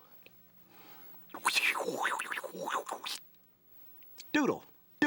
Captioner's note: whooshing